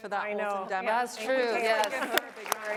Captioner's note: applause